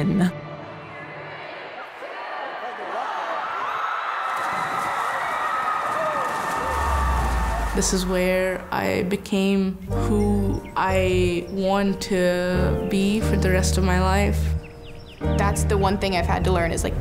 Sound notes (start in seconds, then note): 0.6 crowd; 4.0 crowd screaming